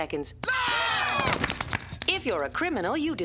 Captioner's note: all screaming